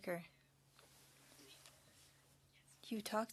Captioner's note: speaking French